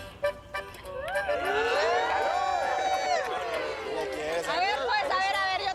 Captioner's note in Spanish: Gritos y exclamaciones